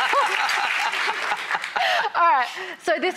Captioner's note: laughs